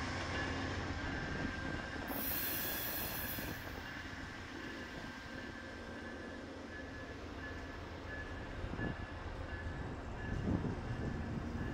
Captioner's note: wind blowing